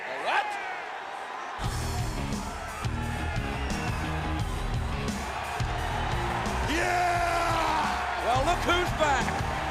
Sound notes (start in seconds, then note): 0.0 crowd cheering